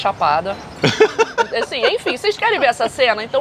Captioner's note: laughs